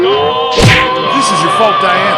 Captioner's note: crash!